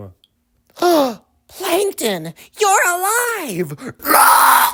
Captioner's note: gasp